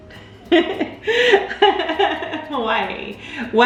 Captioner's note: laughs